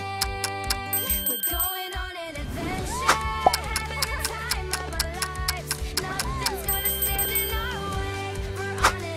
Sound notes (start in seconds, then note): 0.0 clock ticking; 0.8 bell ringing; 3.4 clock ticking; 6.6 bell ringing